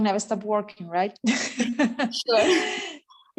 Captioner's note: giggles